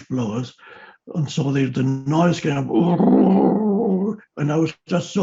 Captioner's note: gargles